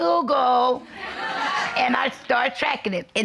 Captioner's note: audience laughing